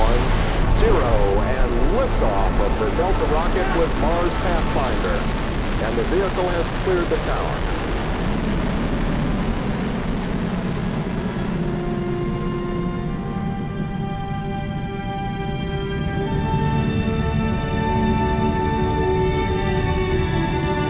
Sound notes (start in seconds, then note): 8.5 rocket roaring; 13.7 inspirational music